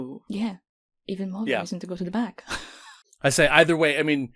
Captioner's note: laughs